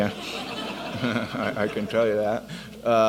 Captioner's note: audience laughs